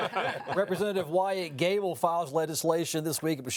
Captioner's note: all laughing